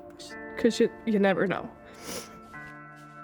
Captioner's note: sniffles